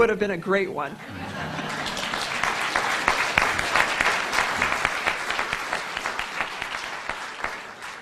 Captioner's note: audience laughing then applauding